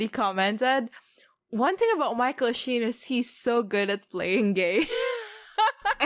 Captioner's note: both laugh